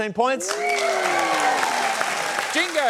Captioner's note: applause